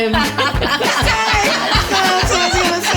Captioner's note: laughter